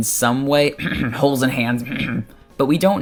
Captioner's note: cough cough holes in hands